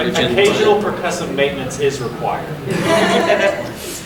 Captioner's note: audience laughing